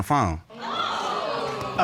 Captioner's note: audience exclaiming